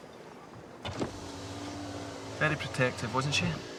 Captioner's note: window hums